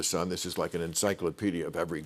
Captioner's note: none